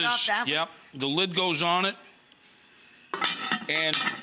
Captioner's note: lid clattering